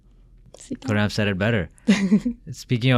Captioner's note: laughing